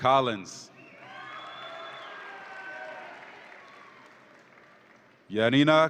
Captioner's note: audience applauds and cheers